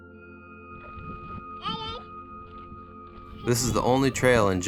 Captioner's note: toddler babbles